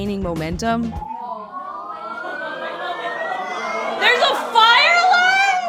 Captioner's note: alarm blaring